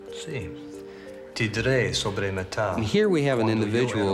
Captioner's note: speaking foreign language